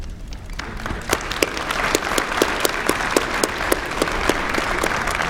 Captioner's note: applause